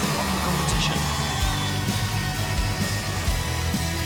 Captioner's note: crowd cheering